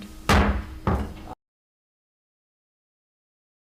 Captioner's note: gavel banging